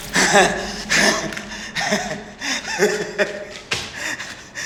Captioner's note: Dr. Ravi laughs